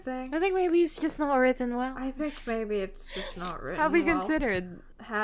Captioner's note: laughs